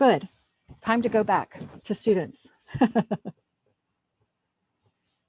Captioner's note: laughs